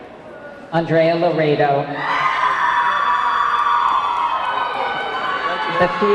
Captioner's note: audience clamoring